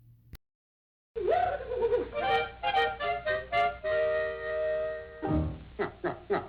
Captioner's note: whooping; jaunty music; silly chuckle